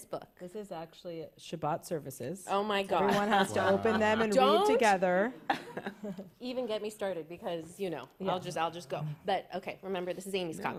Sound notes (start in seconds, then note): 3.1 laughs